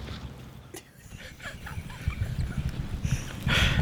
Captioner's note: laughing